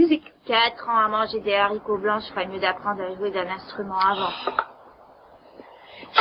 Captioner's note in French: Irène soupire